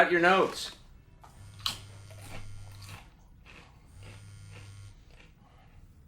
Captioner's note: mobile vibrating